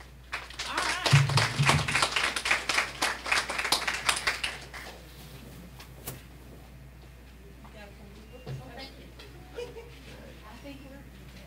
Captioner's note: applause